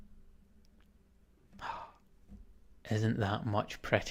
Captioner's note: gasps